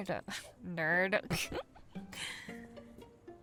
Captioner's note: amanda giggles